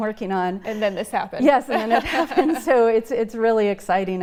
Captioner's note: laughs